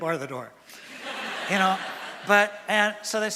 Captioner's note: laughter from audience